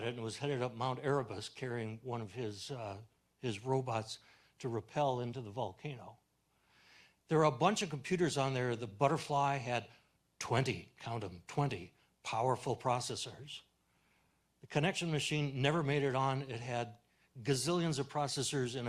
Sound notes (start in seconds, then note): none